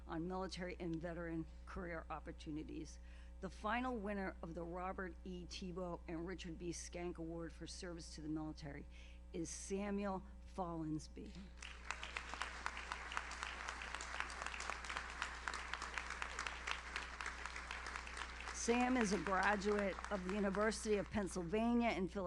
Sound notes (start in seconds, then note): 11.5 audience applauds